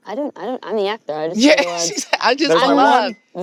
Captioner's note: laughs